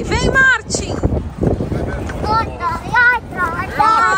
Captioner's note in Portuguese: cantarola